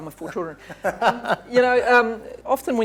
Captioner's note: laughs